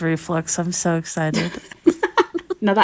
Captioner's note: laughing